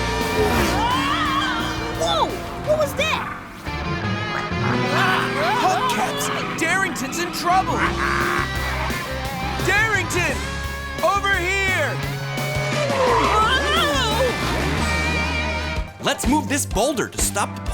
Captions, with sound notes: [screaming] Whoa, what was that? Hubcaps, Darington's in trouble! Darington, over here! [screaming] Let's move this boulder to stop the polar bears